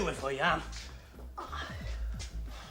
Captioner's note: gemidos